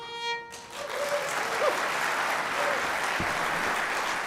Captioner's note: applause